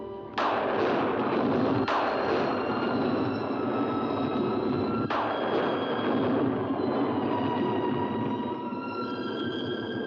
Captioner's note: eerie music; thunder rolls in distance; loud thunder; eerie music